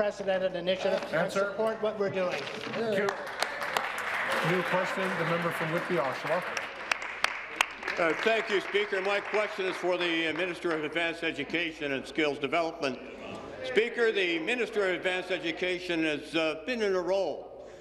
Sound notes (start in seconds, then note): 6.9 applause